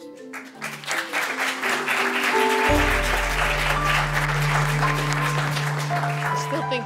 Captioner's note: applause